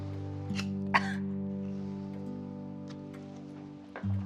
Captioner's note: Pat coughing